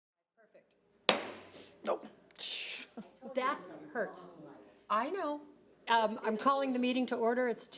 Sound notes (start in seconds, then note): 1.1 gavel bangs; 1.5 exhales loudly